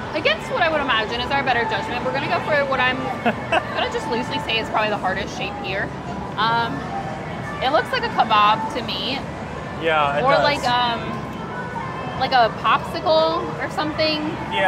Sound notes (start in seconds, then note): 3.1 laughing